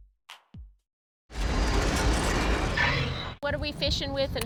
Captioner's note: mechanical sound